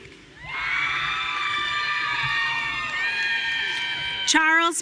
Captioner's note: audience cheering